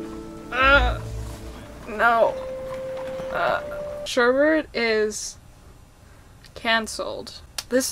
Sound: groans

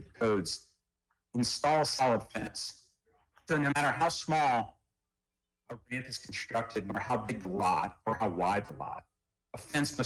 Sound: ~audio distortion~

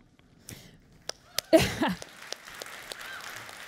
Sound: clapping

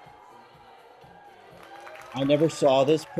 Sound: audience cheers, applauds

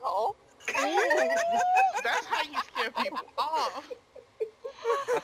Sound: more Laughter

